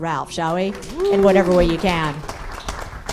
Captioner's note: applause